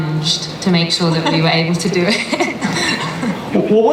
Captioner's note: laughs